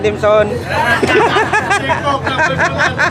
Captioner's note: laughing